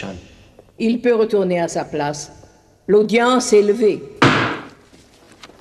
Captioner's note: gavel bangs